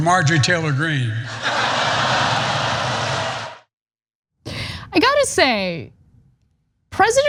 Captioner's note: laugh